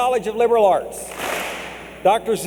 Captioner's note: clap